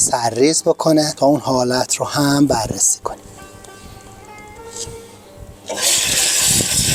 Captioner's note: water filling